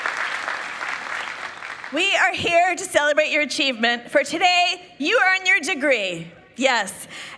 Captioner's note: applause